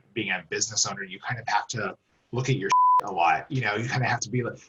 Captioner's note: beep